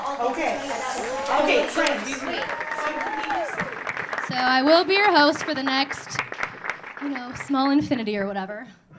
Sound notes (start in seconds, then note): 0.1 audience cheering; 1.3 audience clapping